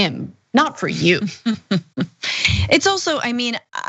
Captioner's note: laugh